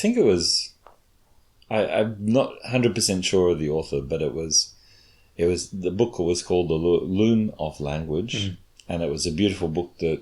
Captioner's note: chuckles